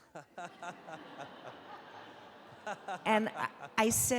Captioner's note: audience laughing